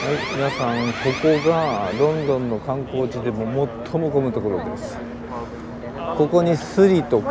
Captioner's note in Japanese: 警告音